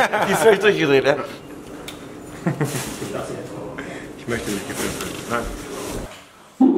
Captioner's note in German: Gelächter